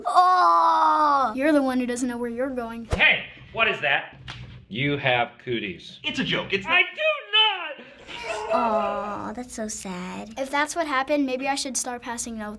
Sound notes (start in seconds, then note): 7.8 crying